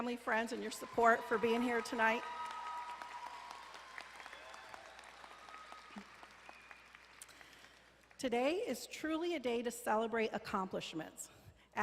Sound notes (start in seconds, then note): 2.3 graduates applauding